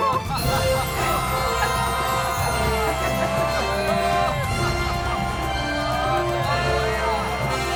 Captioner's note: all laughing as the music builds to a climax